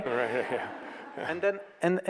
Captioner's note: audience laughs